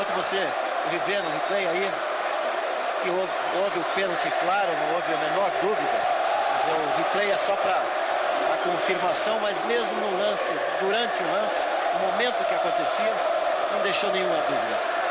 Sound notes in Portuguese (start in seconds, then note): 6.8 aplausos